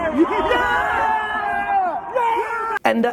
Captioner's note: cheering